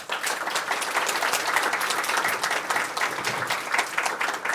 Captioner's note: applause